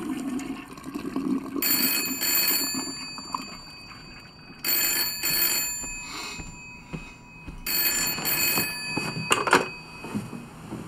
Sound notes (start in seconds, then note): 1.7 phone rings; 7.7 phone rings